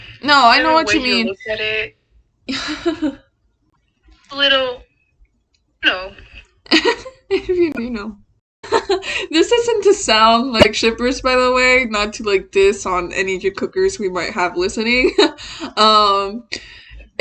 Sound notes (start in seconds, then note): 2.6 shy laugh; 6.7 laughs; 6.7 laughs again